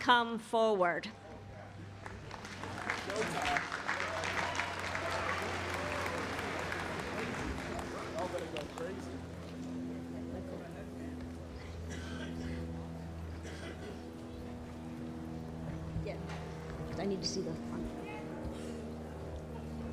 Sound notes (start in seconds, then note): 5.0 applause